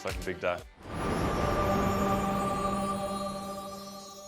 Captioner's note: logo ringing